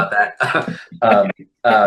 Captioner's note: laughs